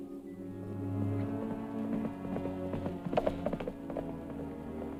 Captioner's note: horse clopping